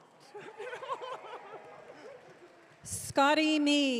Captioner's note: audience cheering